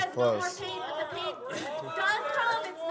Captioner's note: background chatter